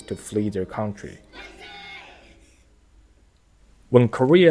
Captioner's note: japanese cheer